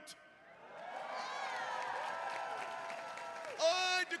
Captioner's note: attendees cheering and applauding